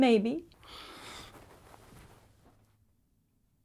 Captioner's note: Bryan sighs